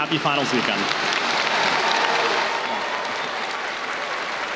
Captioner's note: applause